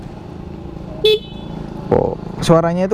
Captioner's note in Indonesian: klakson